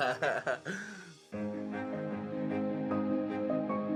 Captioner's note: laughing